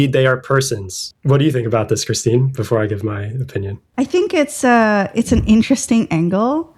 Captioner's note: uh